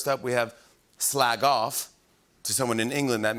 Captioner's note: English accent